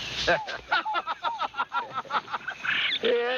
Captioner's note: chuckling